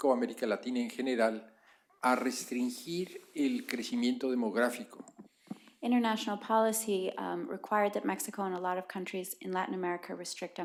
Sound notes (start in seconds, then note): 0.0 spanish; 4.1 spanish